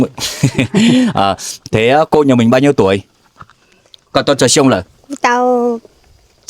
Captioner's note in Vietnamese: tiếng cười